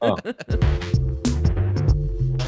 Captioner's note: all chuckling; cheerful music